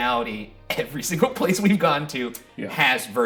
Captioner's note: chuckling